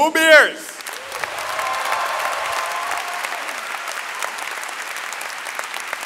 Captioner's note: audience cheering and clapping